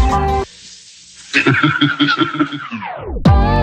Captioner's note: Alan laughs